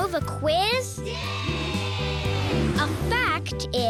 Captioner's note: cheering yeahs